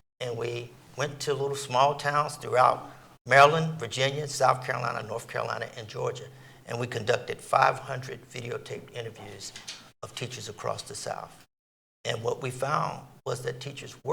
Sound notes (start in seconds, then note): none